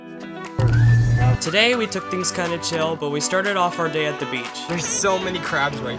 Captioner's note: voiceover